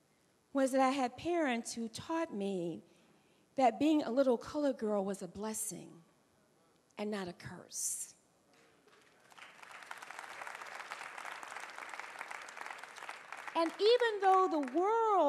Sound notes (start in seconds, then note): 8.6 applause